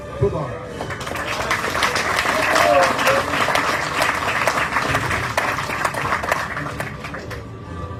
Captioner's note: audience cheering, applauding